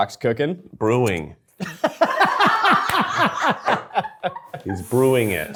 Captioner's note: all laughing